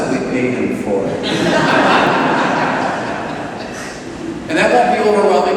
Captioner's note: laughter